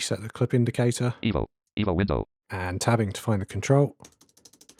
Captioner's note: automated voice